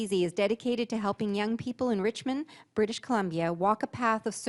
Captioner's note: voice-over